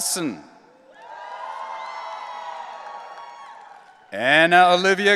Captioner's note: audience cheering